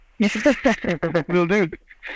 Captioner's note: both laugh